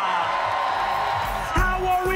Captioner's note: crowd cheering and clapping